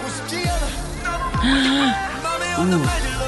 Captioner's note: gasp